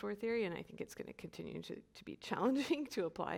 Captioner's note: chuckles